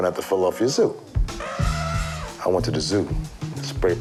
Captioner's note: smooth rhythmic music; elephant trumpeting